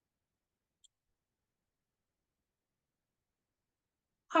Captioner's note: mouse clicks